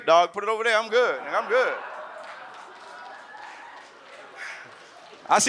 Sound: audience claps and laughs

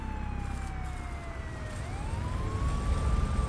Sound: sirens heard in the distance

